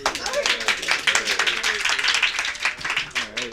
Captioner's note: clapping and laughing